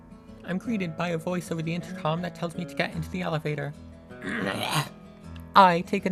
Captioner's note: Shulker sound